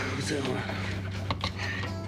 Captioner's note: Joe mumbling